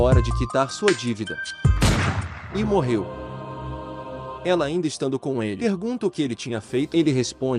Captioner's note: pow